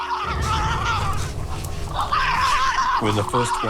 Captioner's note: screaming